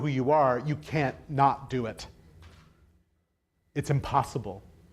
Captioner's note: none